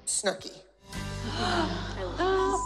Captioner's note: gasp